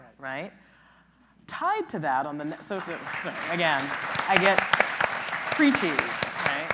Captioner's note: clapping